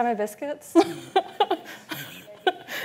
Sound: laughs

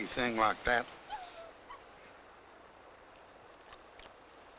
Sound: dog whimpers

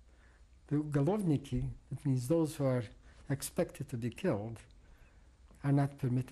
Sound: non-english

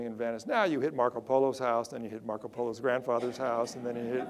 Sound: audience laughter

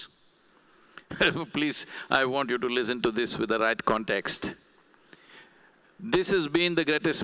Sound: laughs

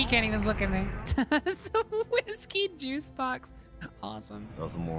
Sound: laughter

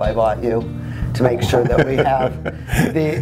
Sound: laughs

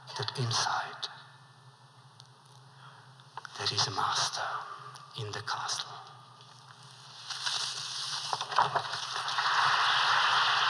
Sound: applause

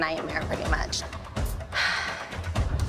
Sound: sighs

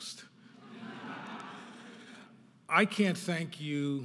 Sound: audience laughing

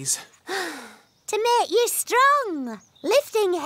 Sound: sighs

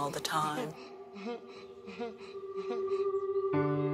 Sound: child breathing heavily

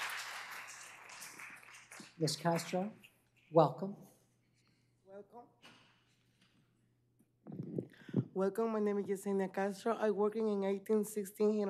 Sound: applause

